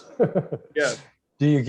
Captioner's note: laughs